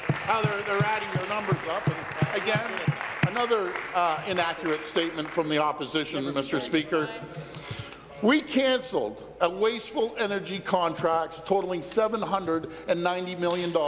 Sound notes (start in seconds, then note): 3.8 applause